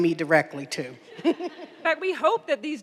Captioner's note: attendees laughing